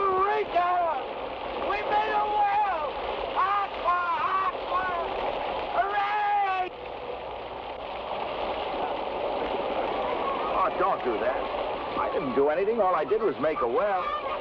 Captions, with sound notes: - Eureka! We made a well! Aqua, aqua! Hooray! (water splashes) Ah, don't do that. I didn't do anything. All I did was make a well.